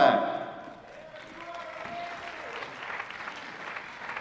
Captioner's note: applause